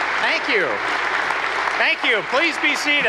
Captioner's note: applause